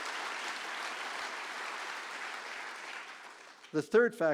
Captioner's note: applause